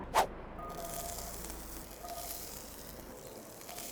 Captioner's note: pan sizzles